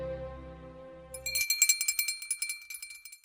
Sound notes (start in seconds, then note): 1.1 ringing bell